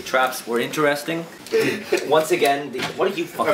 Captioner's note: laughter off-screen